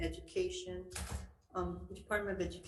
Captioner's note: door shut